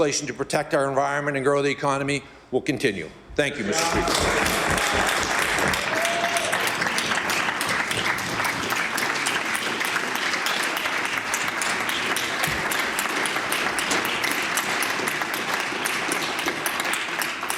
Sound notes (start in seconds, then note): 14.6 applause